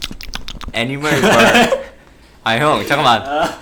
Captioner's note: fails to hold back laughter